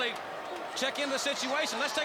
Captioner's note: crowd chatter